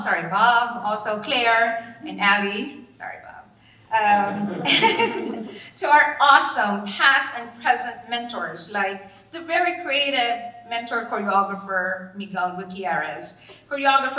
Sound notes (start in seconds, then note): 4.1 all laughing